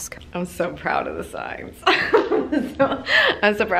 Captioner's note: laughs